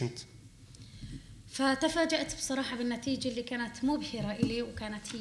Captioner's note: speaking arabic